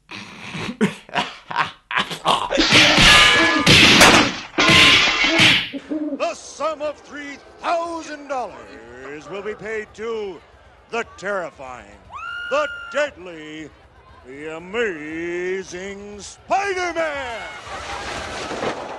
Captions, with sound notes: [He laughs] [Fight sounds] "The sum of three thousand dollars will be paid to... the terrifying, the deadly, the Amazing Spider-Man!"